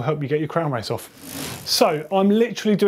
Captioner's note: bike wheel spinning